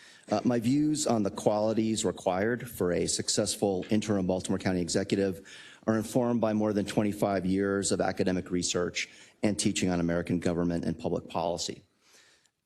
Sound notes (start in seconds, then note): none